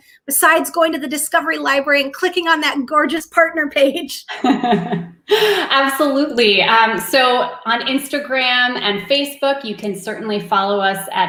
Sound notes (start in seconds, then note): 4.3 laughs